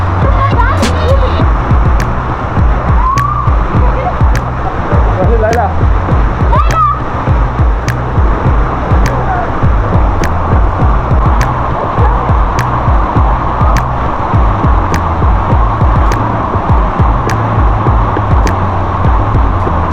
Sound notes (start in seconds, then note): 3.0 scream